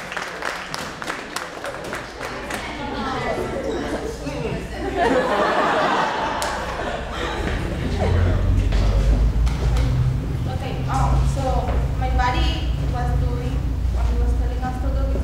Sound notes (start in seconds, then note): 4.6 laughter